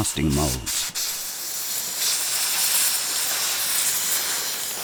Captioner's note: air hissing